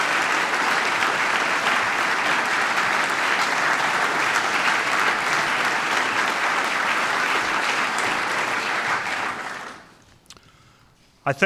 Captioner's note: applause